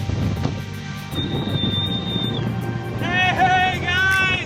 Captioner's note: whistling at dolphins